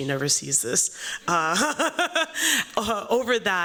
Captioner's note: laughter